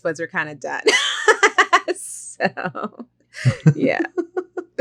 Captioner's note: laughs